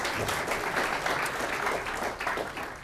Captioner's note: applause